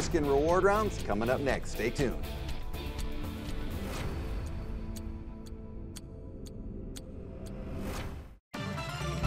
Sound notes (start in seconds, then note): 2.6 clock ticks; 2.6 upbeat music; 8.5 energetic music